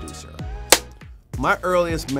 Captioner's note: clapboard snaps